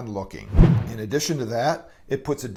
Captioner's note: whoosh